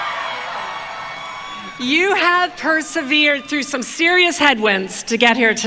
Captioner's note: cheering